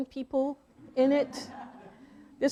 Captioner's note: audience laughing